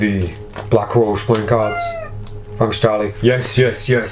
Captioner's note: Charlie meows